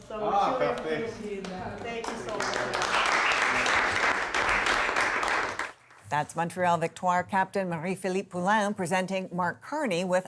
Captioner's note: applause